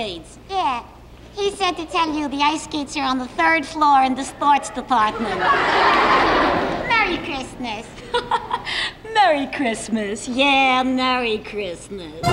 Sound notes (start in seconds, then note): 4.3 audience laughs; 7.9 Shari Lewis laughs